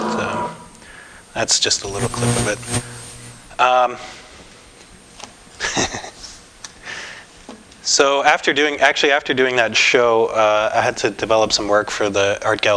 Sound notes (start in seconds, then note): 3.6 laughter